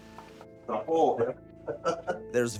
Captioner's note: chuckles